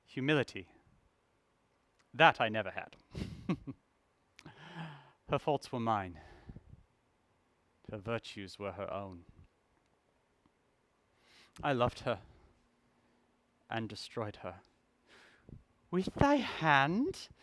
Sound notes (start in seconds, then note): 3.0 chuckle